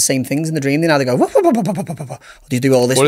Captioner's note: makes dog breathing noise